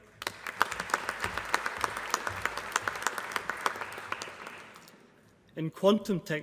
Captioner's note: applause